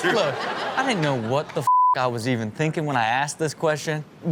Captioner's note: beep